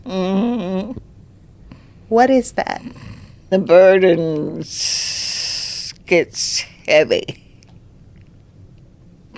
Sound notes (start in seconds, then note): 0.8 grandma chuckles